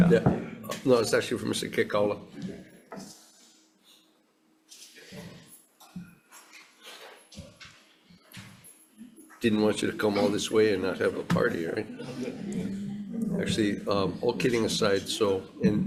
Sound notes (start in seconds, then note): 8.3 keys jangle